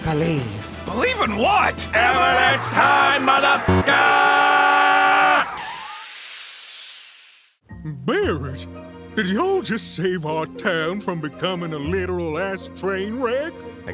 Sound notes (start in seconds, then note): 5.5 wheels screeching; 5.5 steam hissing